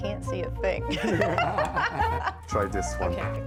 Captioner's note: both laugh